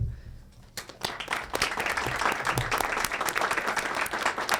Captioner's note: audience applauds